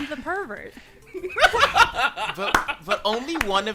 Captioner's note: laughs